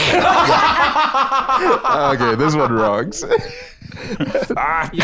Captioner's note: both laughing